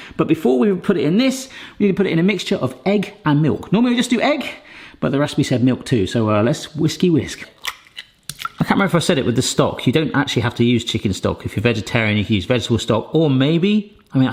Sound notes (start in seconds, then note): 7.4 eggshell cracks; 7.4 mixture plops